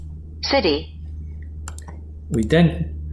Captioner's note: computer Voice